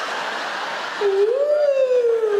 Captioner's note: audience laugh